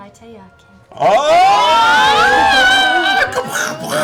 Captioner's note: cheering